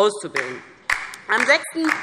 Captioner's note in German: Beifall DIE LINKE